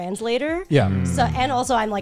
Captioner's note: guys humming in agreement